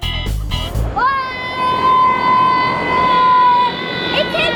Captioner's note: kids shouting